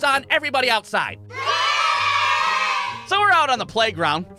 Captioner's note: children cheering